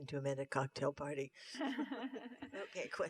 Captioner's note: laughter